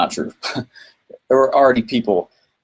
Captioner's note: laughs